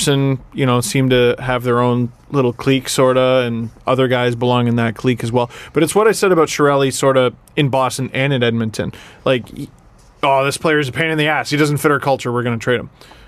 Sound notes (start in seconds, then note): none